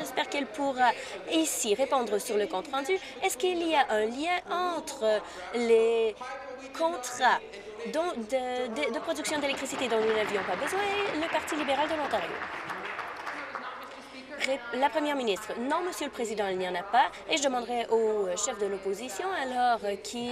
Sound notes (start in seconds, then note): 13.1 applause